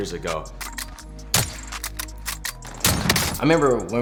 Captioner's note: gun reloads